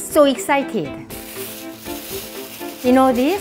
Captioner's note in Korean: 비닐백 구겨지는 소리